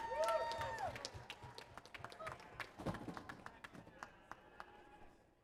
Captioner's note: audience applause